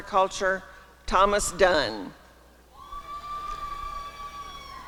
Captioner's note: applause and cheering